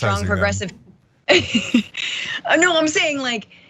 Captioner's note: laugh